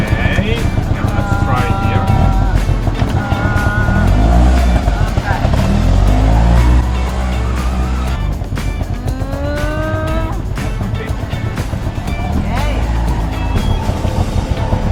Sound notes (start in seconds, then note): 2.5 auto engine